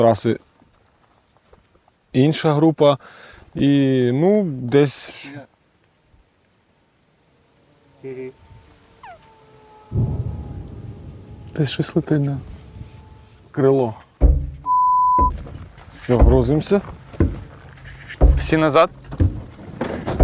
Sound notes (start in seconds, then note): 7.6 faint explosion sound